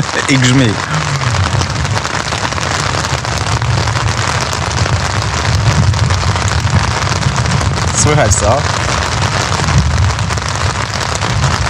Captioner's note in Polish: Grzmoty